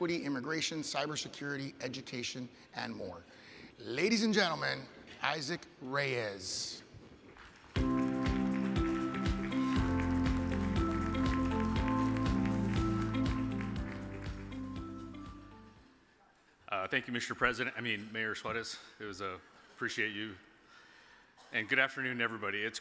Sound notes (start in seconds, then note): 7.7 audience applauds; 7.8 upbeat music